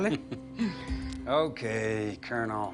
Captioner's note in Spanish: Risas